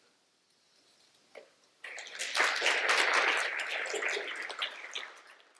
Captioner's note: applause